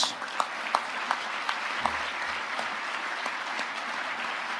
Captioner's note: audience applauding